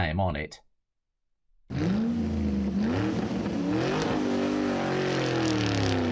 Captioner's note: car engine revving